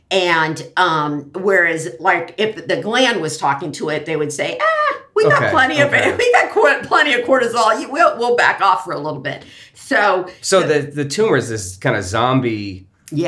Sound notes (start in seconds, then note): 5.2 laughs